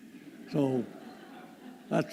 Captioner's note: laughter